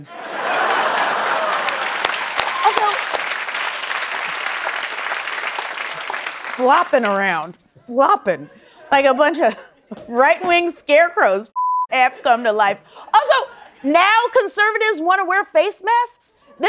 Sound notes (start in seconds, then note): 2.0 applause